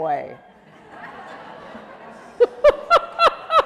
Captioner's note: laughing